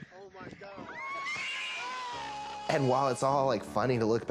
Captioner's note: yelling